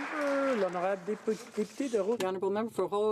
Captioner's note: some Applause